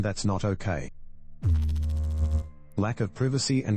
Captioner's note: electrical noise